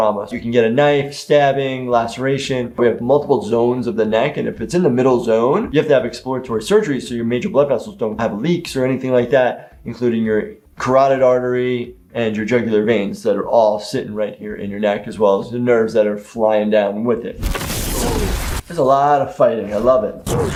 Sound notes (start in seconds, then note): 17.4 crashing sound